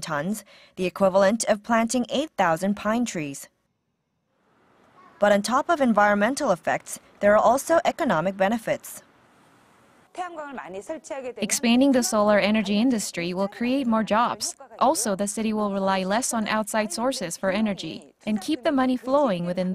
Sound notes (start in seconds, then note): 9.3 Korean